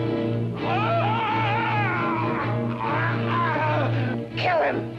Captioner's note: suspenseful music; Kurt screams; suspenseful music